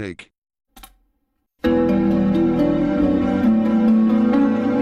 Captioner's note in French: cliquement sur la barre d'espace, musique en cours